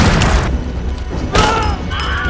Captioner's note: gunfire; explostion; Wilhelm scream